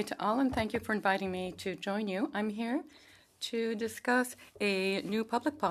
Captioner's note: speaking French